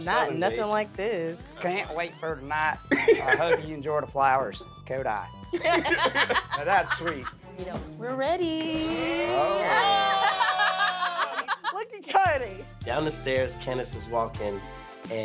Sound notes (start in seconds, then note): 5.6 laughs; 9.0 cheers and laughs